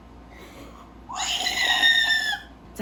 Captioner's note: screaming